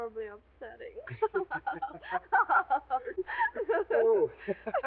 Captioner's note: both laughing